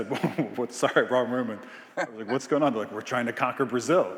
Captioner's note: Biz laughing